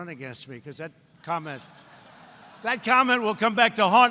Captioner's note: laughter